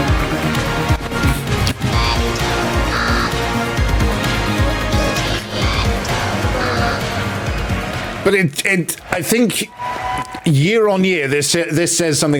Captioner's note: gasps